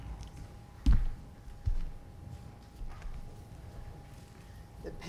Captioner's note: foot thudding